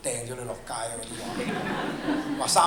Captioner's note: laughter